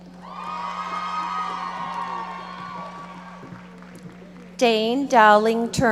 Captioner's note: audience cheering and applauding